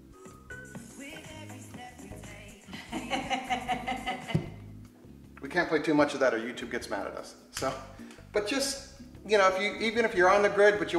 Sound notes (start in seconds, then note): 0.2 dance music; 2.6 woman laughing